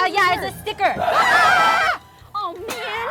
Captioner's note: screams